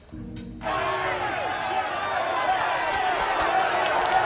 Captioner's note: indistinct shouting